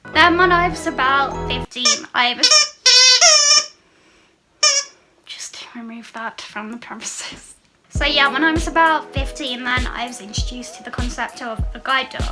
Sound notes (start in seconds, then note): 1.7 sqeaking interrupts speech